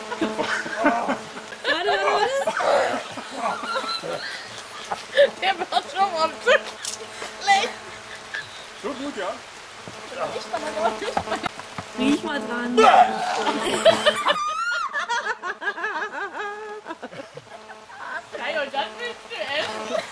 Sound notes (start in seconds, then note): 12.8 more mean laughing